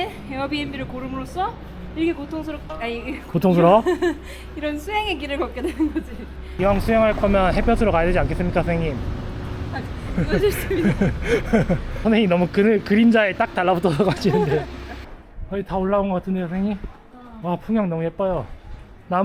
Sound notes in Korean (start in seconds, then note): 10.0 헛웃음